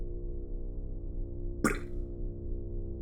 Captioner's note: splat